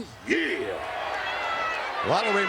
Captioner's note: crowd shouts